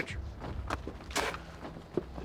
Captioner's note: spits